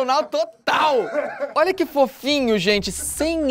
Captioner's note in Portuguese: risadas